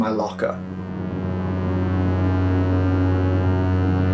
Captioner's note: loud tone